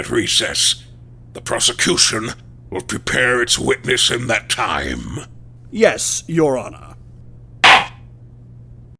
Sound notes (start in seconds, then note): 7.6 gavel slam!